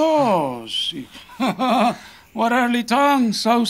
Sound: chuckling

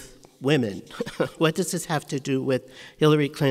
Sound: laughs

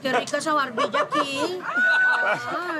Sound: laughter

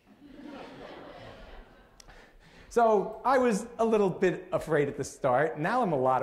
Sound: laughter

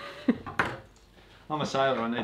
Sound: laughter

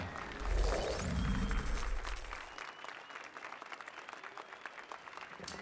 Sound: applause and cheers

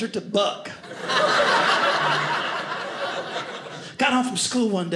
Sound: audience laughing

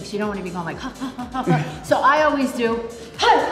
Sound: Tony chuckles

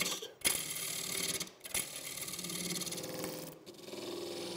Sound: machine rattling

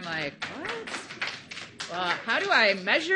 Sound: audience applauding

